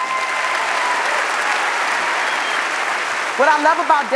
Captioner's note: audience applauds